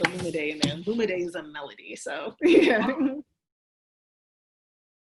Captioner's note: chuckles